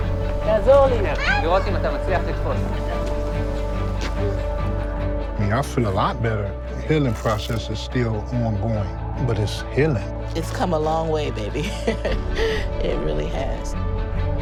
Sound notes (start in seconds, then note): 0.3 speaks in foreign language; 11.5 woman laughs